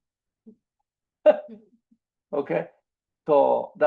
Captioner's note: laughs